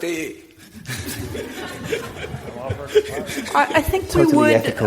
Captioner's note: audience laughing